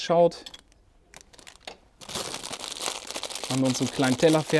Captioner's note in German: Verpackung knistert